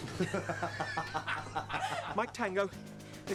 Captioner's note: all laughing